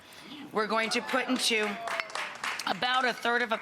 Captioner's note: audience clapping